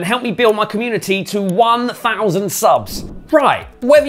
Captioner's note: air swooshing